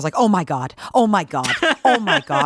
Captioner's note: laughing